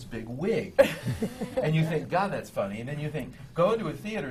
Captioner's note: laughs